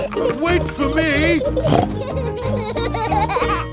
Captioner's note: snorts